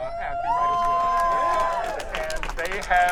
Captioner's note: audience cheering